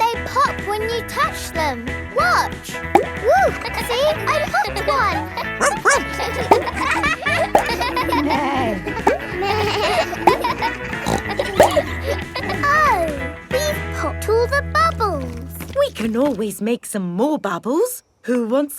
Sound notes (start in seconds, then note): 3.9 kids laughing; 5.6 barks; 8.6 bleats; 8.6 neighs; 11.5 snorts